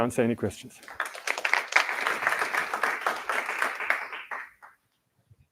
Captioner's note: applause